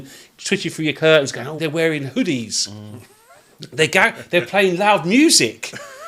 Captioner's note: laughing